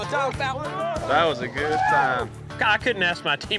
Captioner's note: all cheering